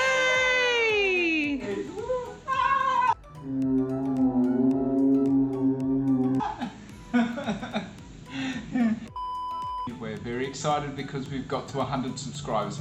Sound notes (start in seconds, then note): 0.2 celebratory Music; 3.4 slow motion cheering; 7.2 laughing